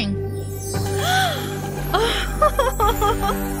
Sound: Shellnelle gasps

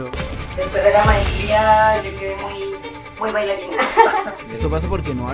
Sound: laughs

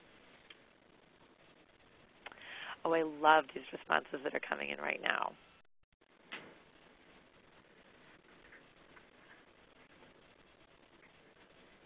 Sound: silence

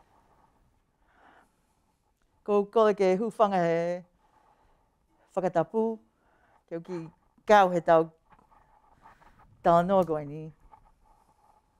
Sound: speaking her language

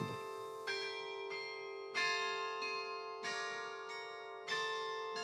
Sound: bells continue playing

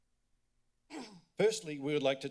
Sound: pause; clear throats

